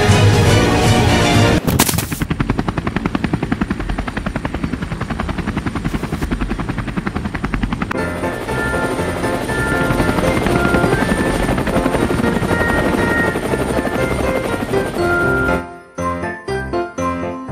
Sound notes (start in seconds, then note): 2.3 helicopter sounds; 8.3 christmas music